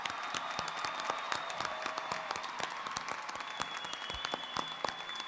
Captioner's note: applause